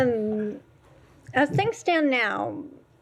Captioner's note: laughter; laughter